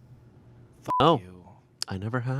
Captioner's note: beep